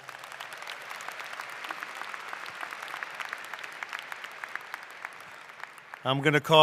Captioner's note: applause